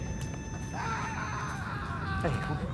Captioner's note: distant screaming